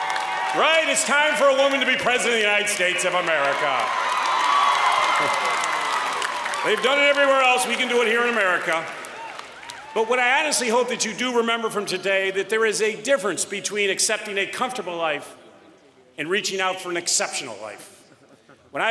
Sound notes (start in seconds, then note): 3.6 applause